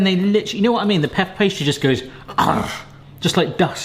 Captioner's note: growls